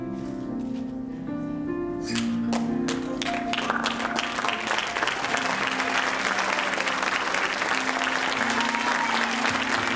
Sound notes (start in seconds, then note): 5.1 audience applauding and cheering